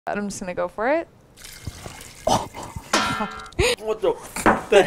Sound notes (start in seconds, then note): 1.3 splashing; 2.3 chuckling